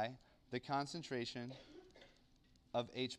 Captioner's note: cough